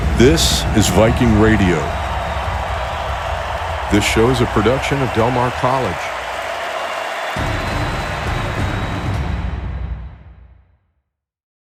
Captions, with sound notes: - This is Viking Radio. (people cheering) This show is a production of Del Mar College. (people cheering) (dramatic music)